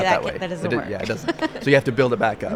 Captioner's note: laughs